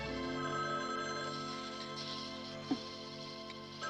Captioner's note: phone Ringing; machine Whirring